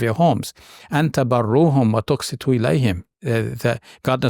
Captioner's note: speaking in Arabic